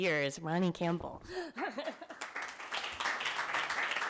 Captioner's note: applause